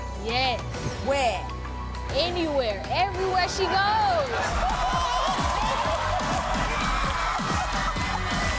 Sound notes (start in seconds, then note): 3.5 crowd cheering